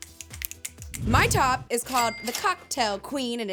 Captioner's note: both snapping; air whooshing; cash register chiming